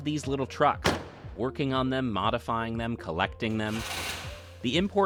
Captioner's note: engine revs